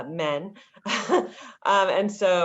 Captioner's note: laughter